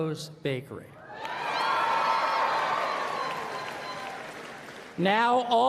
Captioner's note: applause